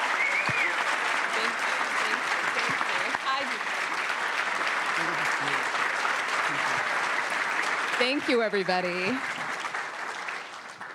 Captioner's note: cheers; applause